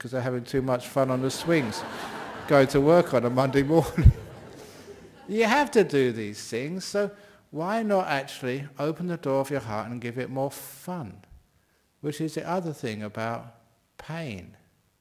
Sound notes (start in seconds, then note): 1.0 laughter